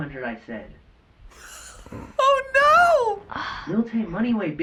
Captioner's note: chuckles